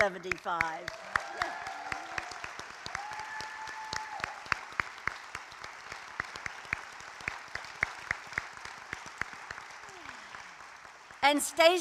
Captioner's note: applause